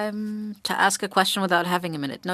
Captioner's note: speaking French